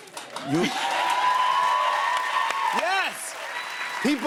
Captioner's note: cheers and applause